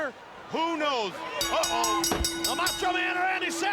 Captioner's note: bell ringing